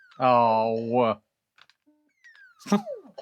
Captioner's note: laughs